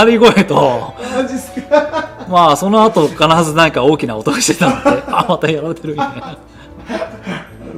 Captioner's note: laughs